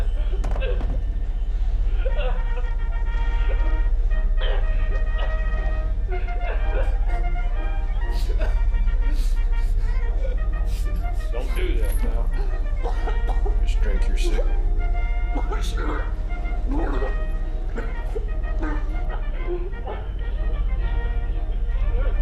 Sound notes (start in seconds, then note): 2.5 cheerful 1920's music; 2.5 victim sobbing; 11.5 victim coughing; 17.0 cheerful 1920's music; 17.0 victim sobbing